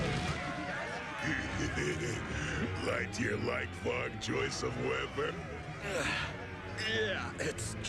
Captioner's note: laughing